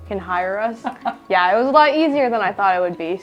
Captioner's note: laughing